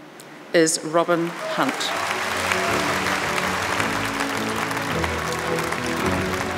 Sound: audience clapping and cheering

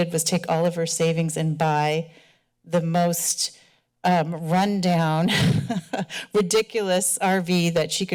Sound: laughter

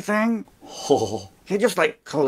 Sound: chuckling

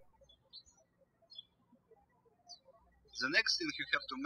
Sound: birds chirping

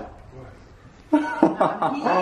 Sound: laughs

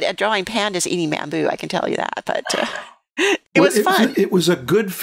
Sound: chuckles

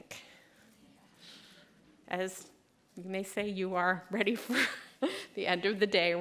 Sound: laughter

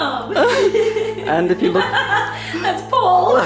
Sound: laughs

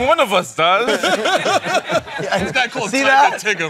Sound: laughter

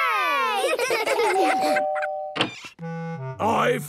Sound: doorbell rings

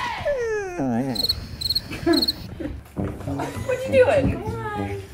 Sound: Gretel whimpering; crickets chirping

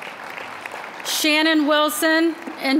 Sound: applause

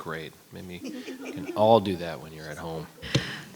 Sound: attendees titter

